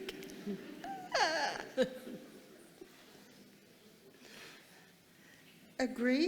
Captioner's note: audience laughing; laughs